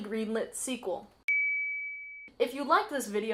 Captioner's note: ding